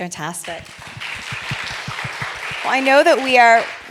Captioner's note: applause